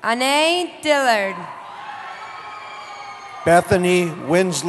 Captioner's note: cheering